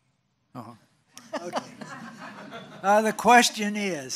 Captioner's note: laughs